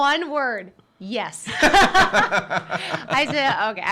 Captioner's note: laughing